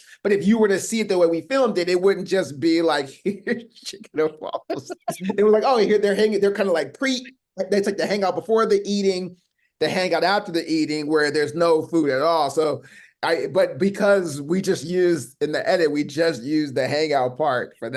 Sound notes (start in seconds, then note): 4.0 laughing